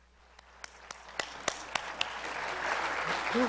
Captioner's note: applause